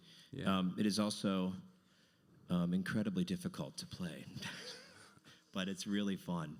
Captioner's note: laughs